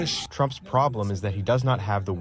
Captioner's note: through translator